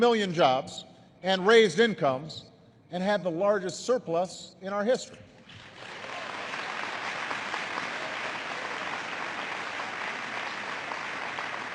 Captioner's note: applause